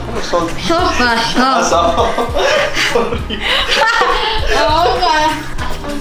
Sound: speaks in foreign language

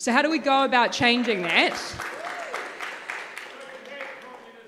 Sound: audience claps

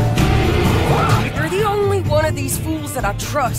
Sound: animal squealing; bear roaring

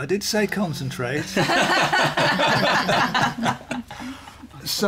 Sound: laughter

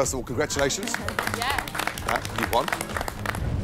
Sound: applause

